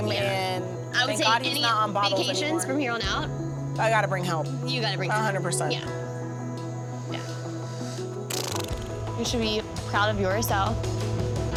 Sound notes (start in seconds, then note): 8.3 mouth sounds